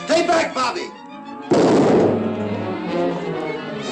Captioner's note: gunshots